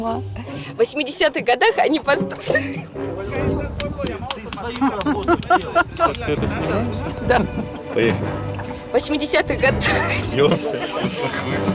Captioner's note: laughs